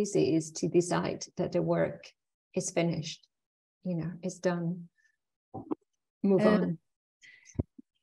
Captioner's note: chuckling